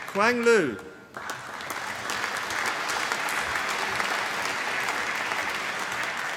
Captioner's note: applause